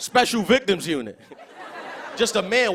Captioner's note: laughter